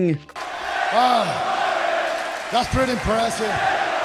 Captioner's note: daniel bryan chants